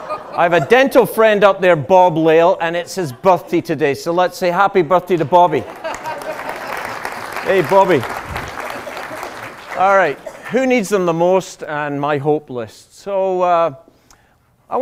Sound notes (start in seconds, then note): 5.6 laughter and applause